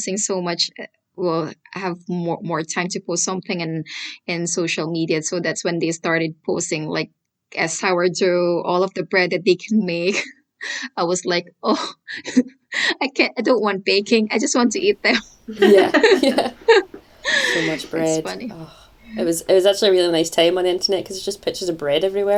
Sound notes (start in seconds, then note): 15.0 laughter